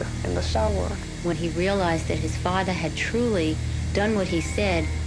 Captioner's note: voiceover